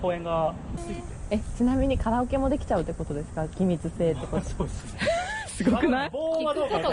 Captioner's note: laughs